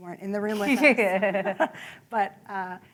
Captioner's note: laughter